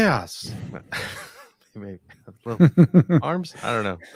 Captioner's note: laughs